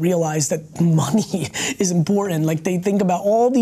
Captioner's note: laughs